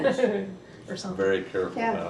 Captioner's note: laughs